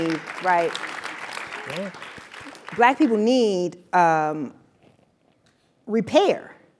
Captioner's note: applause